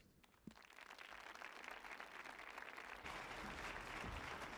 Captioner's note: audience applauding